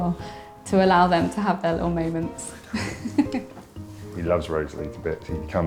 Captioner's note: laughing